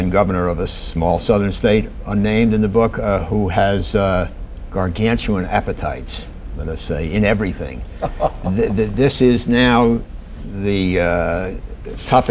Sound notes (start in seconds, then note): 7.9 laughter